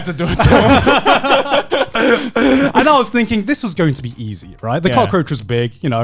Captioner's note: laughs